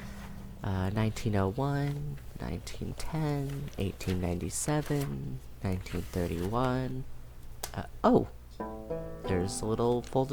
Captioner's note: paper falls to the floor